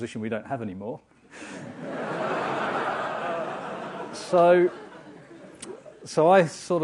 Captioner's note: laugh